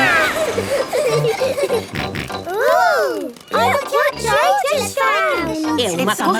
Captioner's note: snort